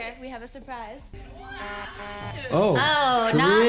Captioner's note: horn honks